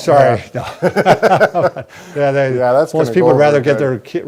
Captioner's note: both laughing